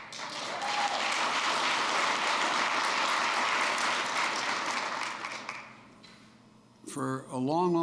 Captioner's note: applause